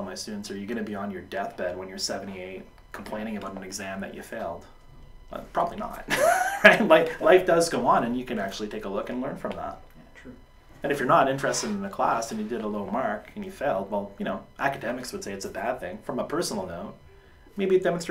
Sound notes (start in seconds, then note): 6.0 laughs